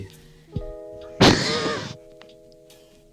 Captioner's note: mic popping wheeze